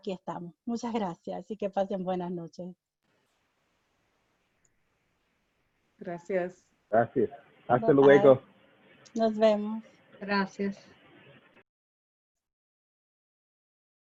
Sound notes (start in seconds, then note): 7.5 speaking in foreign language